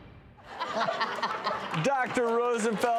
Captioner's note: light laughing